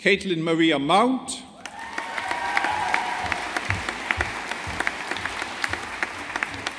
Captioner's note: audience applauding